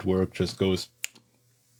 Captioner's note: snaps